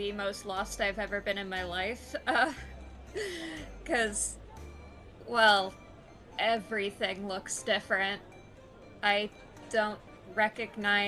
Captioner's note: laughs